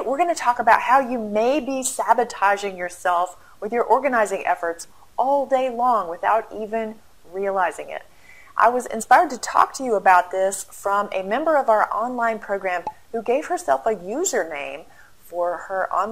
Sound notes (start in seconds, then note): 12.8 pop